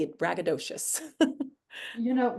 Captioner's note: chuckles